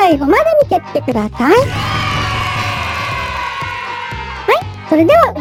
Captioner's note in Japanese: 叫び声; 大歓声